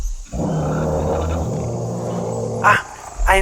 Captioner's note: roar